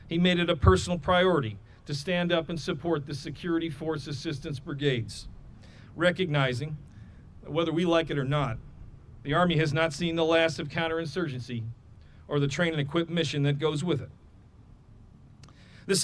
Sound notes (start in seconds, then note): none